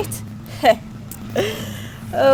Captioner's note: laughs